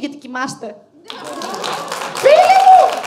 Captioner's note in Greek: χειροκροτηματα